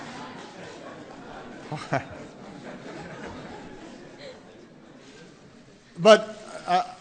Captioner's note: laughter